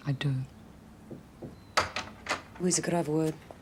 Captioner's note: knock at door, door opens